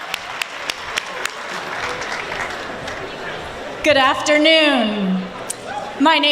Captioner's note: applause